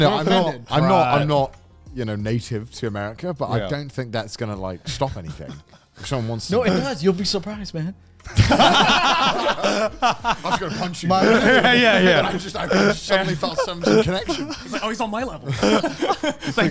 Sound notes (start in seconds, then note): 8.3 all laugh